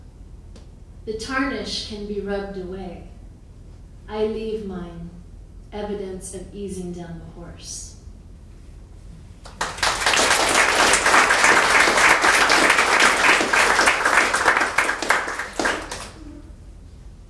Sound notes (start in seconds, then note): 9.4 audience applauding